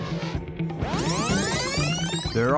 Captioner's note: video rewinding